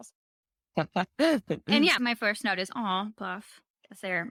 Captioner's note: laughs